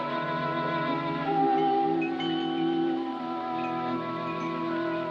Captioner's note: glass Tinkling